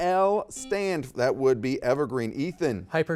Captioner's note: buzzer beeps